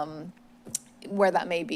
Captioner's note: smacks lips